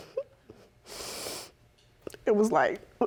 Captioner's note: sniffles